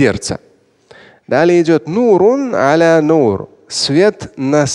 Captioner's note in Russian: говорит на арабском